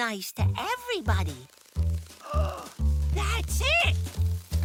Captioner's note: gasp